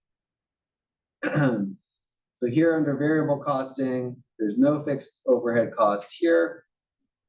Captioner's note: cough